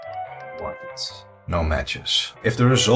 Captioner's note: typing